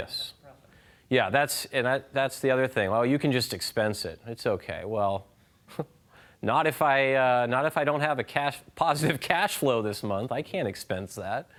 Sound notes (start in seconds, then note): 5.7 chuckles